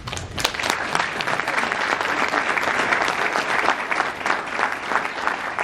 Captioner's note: audience applauds